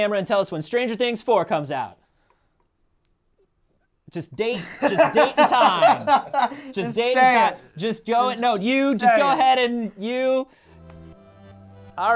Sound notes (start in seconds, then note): 4.5 laughs